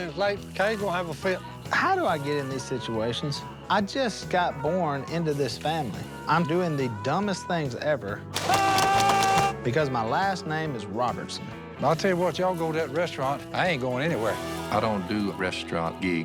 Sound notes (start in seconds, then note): 8.3 gunshots; 8.4 yells